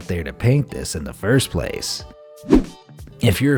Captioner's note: air whooshing